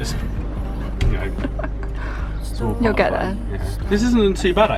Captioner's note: laughing